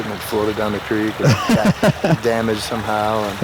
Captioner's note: man laughing